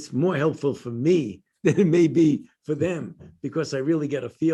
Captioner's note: laughter